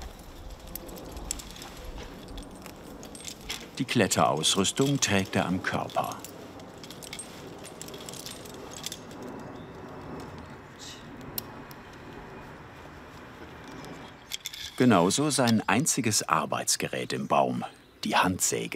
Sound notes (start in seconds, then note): 6.3 metallic clinking